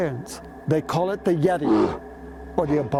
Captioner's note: Yeti grunts